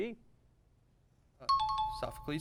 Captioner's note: timer